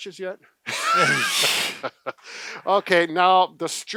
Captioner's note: both laugh